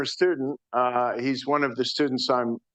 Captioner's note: none